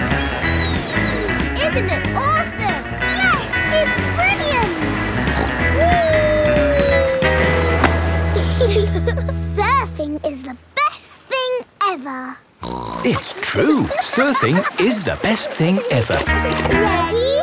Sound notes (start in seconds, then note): 5.1 snorts; 8.3 giggle; 12.6 snorts